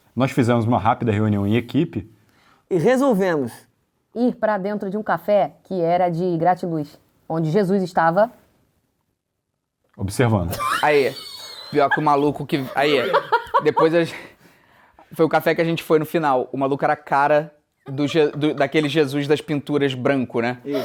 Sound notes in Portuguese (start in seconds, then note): 12.6 gargalhando